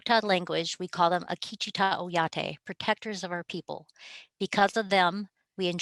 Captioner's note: speaking native language